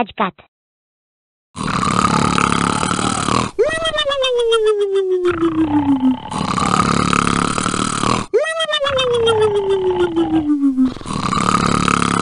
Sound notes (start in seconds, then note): 1.6 both snoring